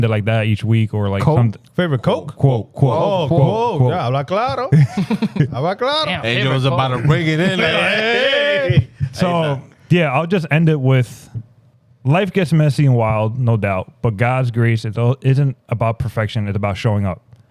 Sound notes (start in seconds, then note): 4.7 speaking In Foreign Language; 7.5 cheering